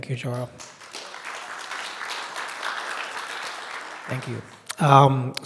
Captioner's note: people clapping